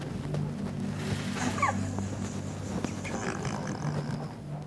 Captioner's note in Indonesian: still awkward laugh